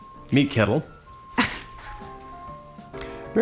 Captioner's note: scoffs